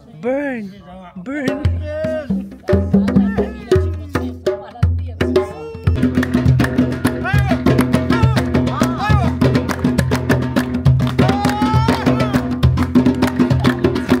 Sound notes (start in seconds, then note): 1.3 drums beating; 2.6 claps